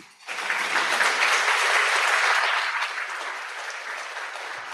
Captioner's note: audience applauds